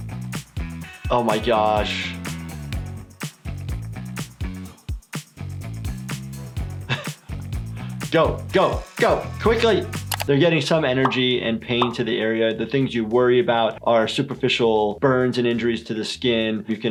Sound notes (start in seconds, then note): 2.3 upbeat music; 6.8 doctor laughs